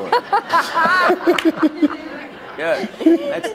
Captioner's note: laughter